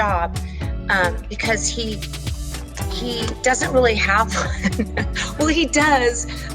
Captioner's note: chuckles